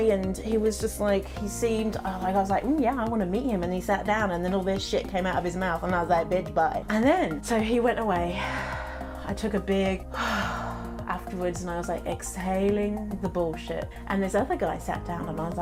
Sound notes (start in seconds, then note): 8.5 deeply sighing; 10.1 sighs